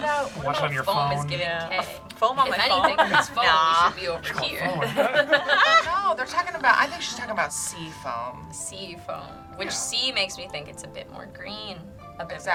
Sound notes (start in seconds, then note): 2.4 laughs; 4.0 group laughs